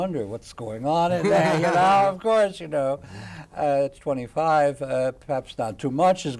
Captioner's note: laughs